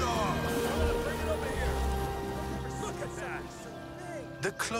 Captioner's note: sailors chatter